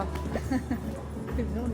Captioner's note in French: Rire nerveux